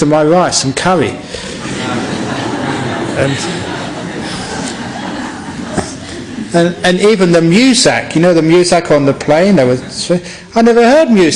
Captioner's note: laughter